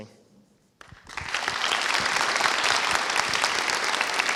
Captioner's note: applause